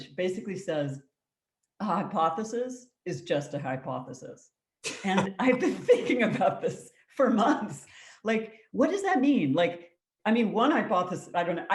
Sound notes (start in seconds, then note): 4.9 both laugh